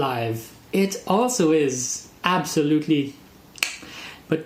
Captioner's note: chef’s kiss